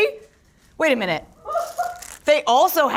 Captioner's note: package rustles